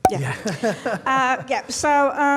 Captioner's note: laughs; notification effect